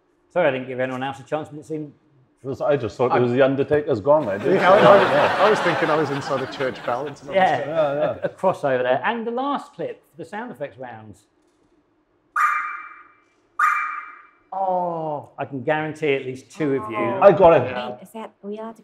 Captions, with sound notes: Sorry. I didn't give anyone else a chance. But it seemed... - I just thought it was the Undertaker's gong I did. (audience laughs) - I was thinking I was inside a church bell. - A cross, over there. And the last clip for the sound effects rounds. (sharp electronic chimes) - Oh. - I can guarantee at least two of you I got it.